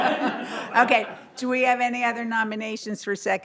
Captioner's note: laughter